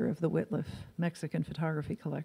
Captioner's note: none